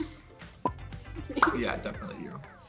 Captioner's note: giggling